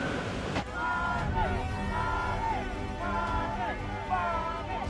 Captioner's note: crowd